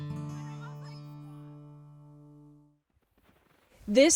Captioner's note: soft laughter and chattering